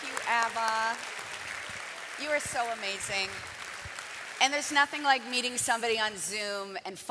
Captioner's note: cheering and Applause